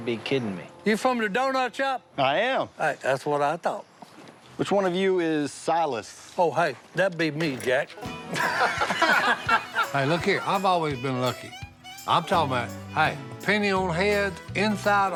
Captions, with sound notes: -You from the donut shop? -I am. That's what I thought. -Which one of you is Silas? -Oh, hey. That'd be me, Jack. [laughter] Hey, look here. I've always been lucky. I'm talking about, hey, penny on heads, inside a horseshoe...